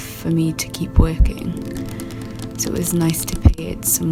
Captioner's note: sound of fingernails lightly tapping a surface